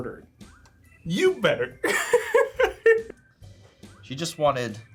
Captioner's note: laughs